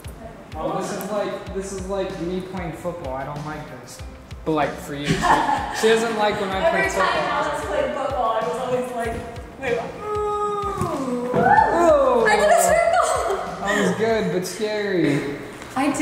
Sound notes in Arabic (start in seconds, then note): 10.0 يهتف